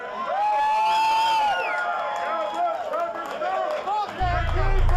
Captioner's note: crowd cheering